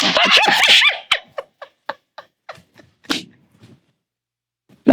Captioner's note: laughing